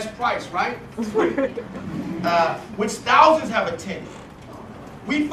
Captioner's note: laugh